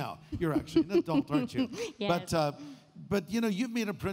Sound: chuckles

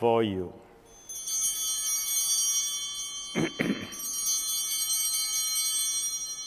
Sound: chimes ringing

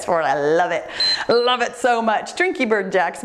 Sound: timer beeps

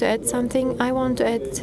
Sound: speaking foreign language

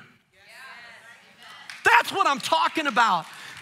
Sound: congregation cheering and applauding

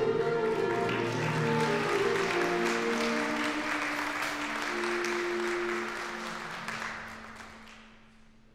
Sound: applause

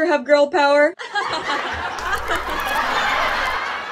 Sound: laughter that slowly becomes distorted

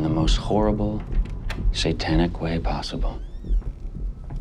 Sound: door opens, closes

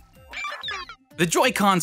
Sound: digital sounds

